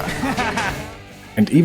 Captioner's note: psychopathic laugh